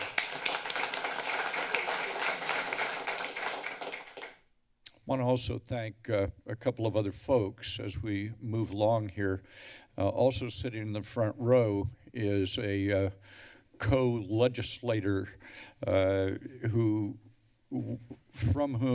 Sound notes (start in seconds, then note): 0.0 applause; 4.9 tongue clicks